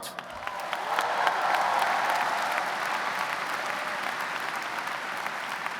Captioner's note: audience cheers and applauds